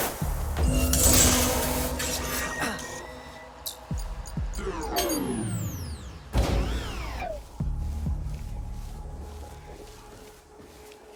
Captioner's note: glass shatters